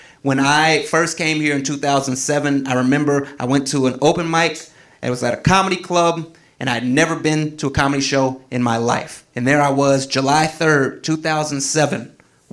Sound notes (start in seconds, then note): none